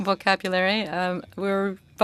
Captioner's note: speaking French